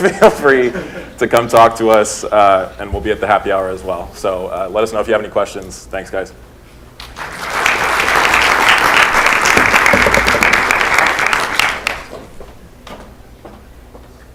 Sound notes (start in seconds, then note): 0.0 laughter; 7.0 applause